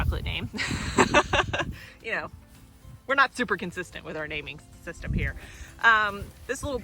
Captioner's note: laugh